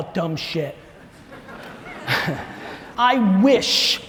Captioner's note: audience laughs; Gary laughs